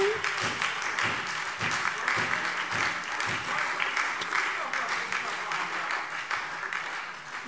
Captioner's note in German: Beifall SPD, Freie Demokraten und DIE LINKE